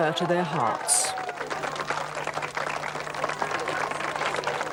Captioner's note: crowd cheers